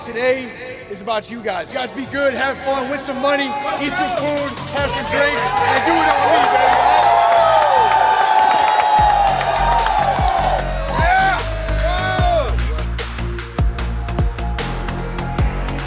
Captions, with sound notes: Today is about you guys. You guys be good, have fun, win some money, eat some food, have some drinks, and do it on me, baby, all right! (crowd cheering) (upbeat electronic music)